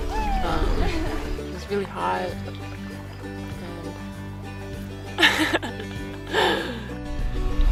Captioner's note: laughs